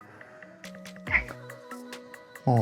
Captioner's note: kitty chirp